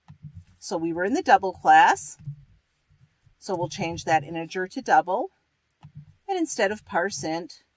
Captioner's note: typing